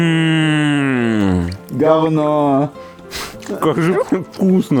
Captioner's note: sighs of hungry consumption; sarcasm